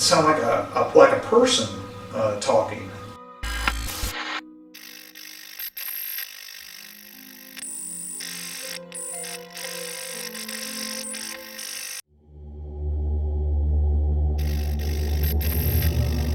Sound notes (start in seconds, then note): 3.5 eerie music; 7.4 ominious music; 7.4 static fizzing